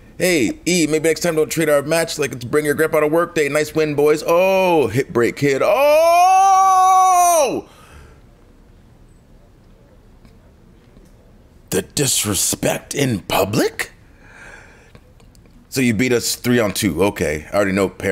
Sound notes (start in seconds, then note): none